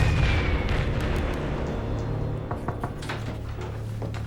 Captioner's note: sound of shelling